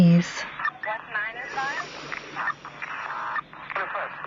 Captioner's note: inhale